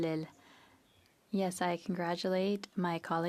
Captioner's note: speaking French